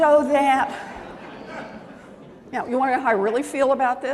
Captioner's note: laughter